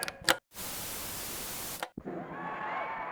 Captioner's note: television clicks; static crackling; crowd cheering